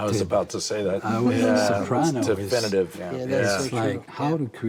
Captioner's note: giggles